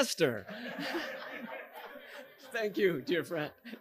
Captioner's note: audience laughing